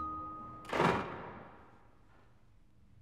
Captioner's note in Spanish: portazo